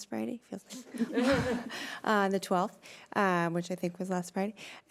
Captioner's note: laughing